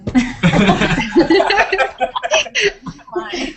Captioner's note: laughter